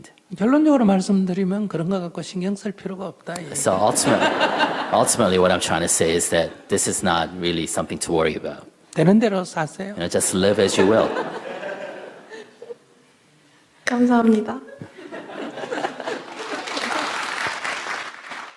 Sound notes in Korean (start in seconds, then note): 7.5 청중 웃음; 10.5 청중 웃음; 15.1 질문자와 청중 웃음, 박수